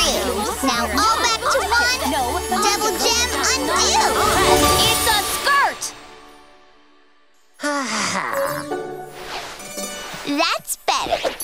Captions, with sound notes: now all back to one, double gem, undo! It's a skirt! [sighing] That's better.